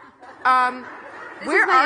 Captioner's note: audience laughing